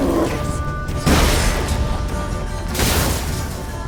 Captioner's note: Quen shield explodes